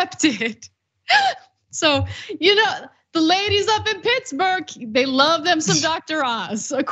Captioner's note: laugh